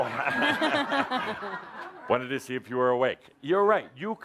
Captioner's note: laughter